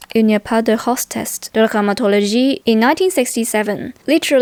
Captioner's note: french